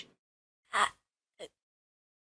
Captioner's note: stammering